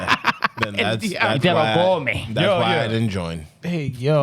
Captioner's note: laughing